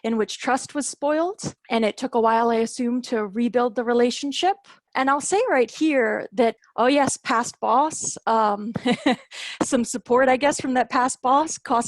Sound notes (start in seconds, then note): 8.7 laughter